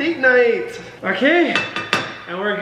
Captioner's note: spoon banging